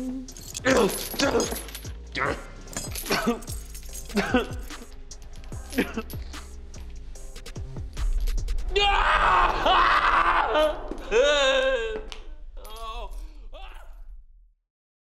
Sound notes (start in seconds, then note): 0.0 moaning; 4.0 coughing; 8.6 screaming